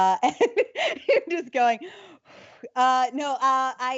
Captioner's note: laughs; exhales